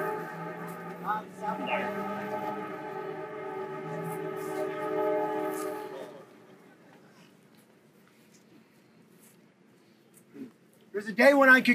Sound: train horn sounds

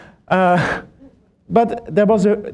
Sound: laughter

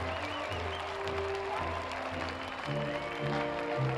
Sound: applause

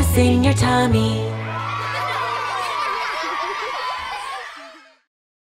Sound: children giggling

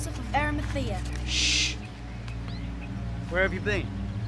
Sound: Jess shushes Bekky

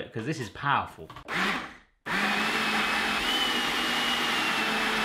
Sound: blender buzzing

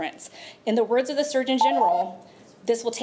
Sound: timer beeps

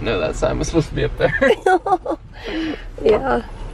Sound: both chuckling

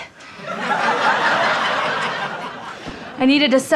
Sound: audience laughter

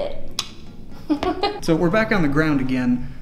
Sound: laughs

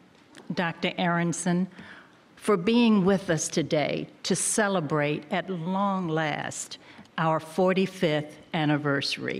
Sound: none

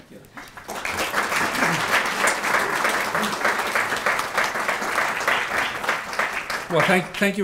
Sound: audience applauding

